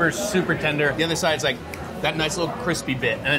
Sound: fingers snapping

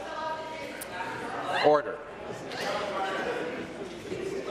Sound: conversation din

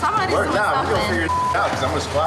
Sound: beep

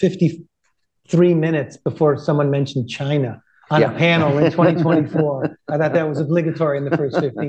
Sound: laughter

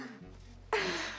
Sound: chucklgin

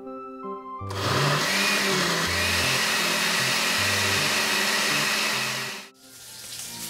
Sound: blending

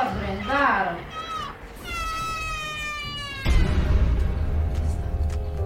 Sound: scream

